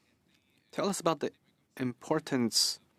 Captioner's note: speaking French